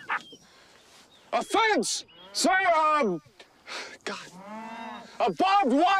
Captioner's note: soldiers snickering; sighs